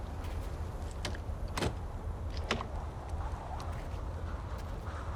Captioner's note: door handle rattles